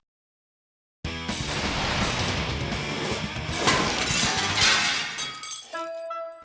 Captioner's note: air swoosh; energizing music; glass shattering; melodic music